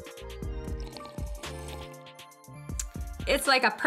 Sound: slurps

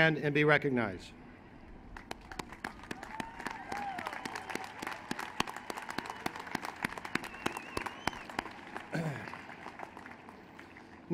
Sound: applause

